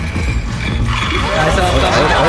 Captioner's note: rattle